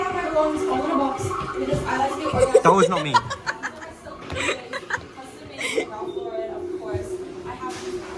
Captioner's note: laughter